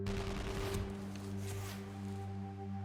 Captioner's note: distant gun fires